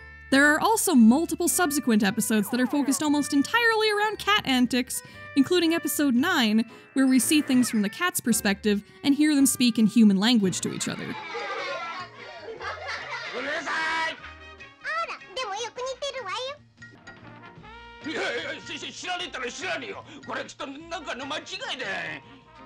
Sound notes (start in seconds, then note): 11.1 cats laughing